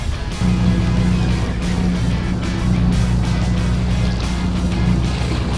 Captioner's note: boat engine revving